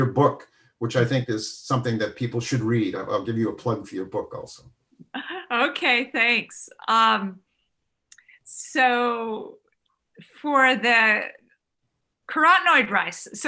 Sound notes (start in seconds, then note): 5.1 laughs